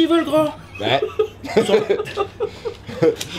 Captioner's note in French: Fou Rire